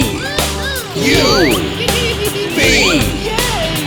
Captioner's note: giggling